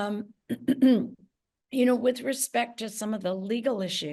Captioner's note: clears throat